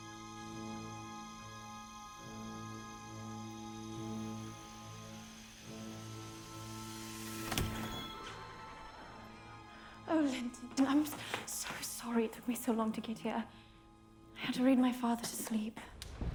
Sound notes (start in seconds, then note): 1.9 rain pelting